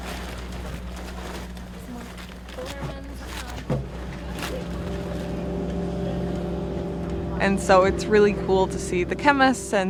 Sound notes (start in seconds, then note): 0.0 plastic rustling